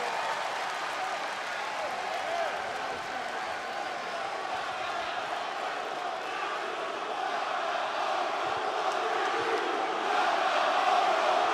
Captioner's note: crowd cheering